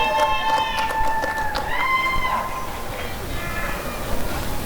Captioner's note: applause and cheering